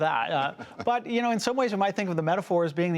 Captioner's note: laughter